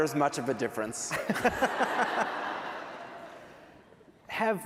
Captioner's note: laughter